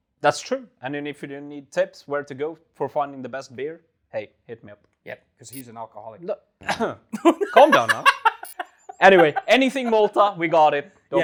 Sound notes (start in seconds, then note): 7.1 laughs